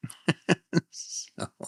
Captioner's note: laughs